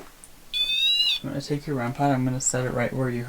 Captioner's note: machine beeps